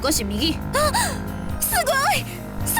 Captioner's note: gasp